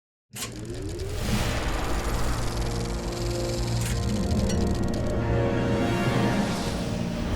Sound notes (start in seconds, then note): 0.7 projector Sound